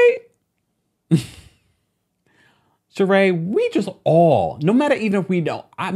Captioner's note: scoffing